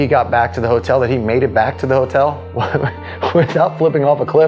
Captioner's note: laughing